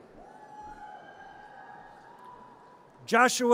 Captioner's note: audience cheers